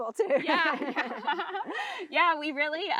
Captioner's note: both laughing